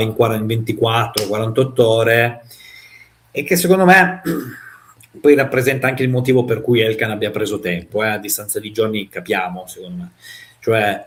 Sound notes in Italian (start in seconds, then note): 4.2 schiarire la voce